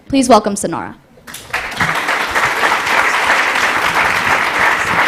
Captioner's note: applause